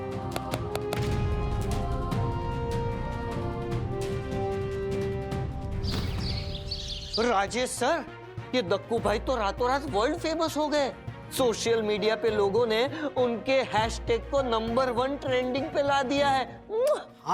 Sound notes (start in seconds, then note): 0.3 clapping; 5.8 birds chirping